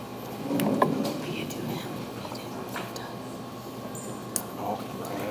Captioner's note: ladies whispering